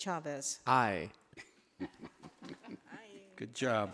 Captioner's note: laughing